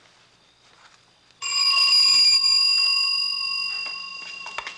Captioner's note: ringing